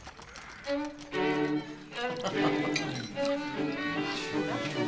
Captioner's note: laughter, quiet conversation